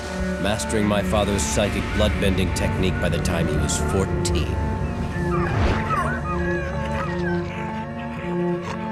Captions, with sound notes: mastering my father's psychic bloodbending technique by the time he was 14. [whimpering]